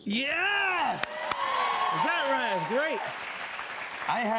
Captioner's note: cheers and applause